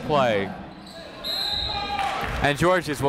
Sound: whistle

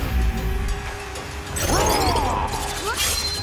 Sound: roaring

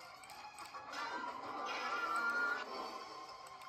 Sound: Marlin, Nemo, and Dory screaming

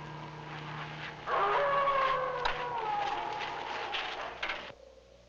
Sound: animal howling

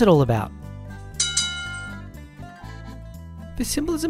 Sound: bells clangs

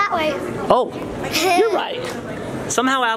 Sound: giggles

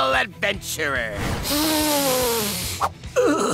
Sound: patron sniffs; patron groans

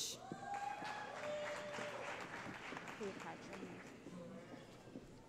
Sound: cheering

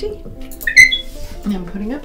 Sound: griffin chirps

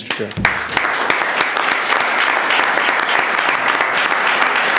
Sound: audience applauding

